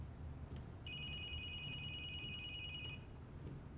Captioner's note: phone ringing